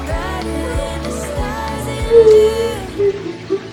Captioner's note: crying